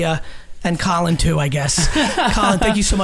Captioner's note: group laughs